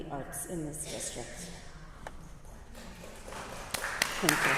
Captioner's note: applause